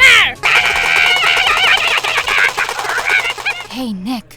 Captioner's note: Oldbag screaming, “ray gun” firing